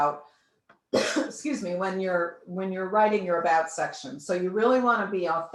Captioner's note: coughs